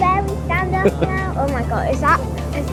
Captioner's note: laughing